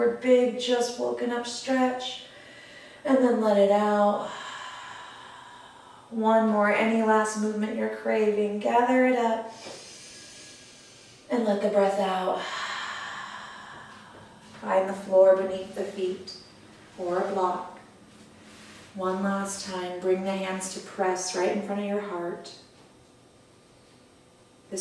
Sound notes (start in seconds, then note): 9.5 inhale; 13.5 exhale